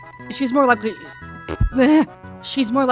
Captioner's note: fart noise